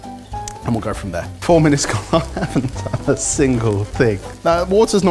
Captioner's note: laughing